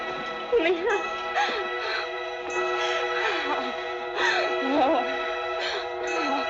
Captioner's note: pants; suspenseful music continues